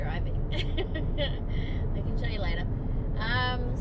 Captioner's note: aughs